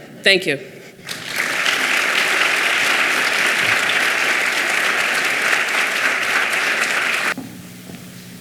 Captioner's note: clapping